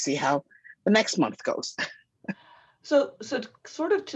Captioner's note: laughs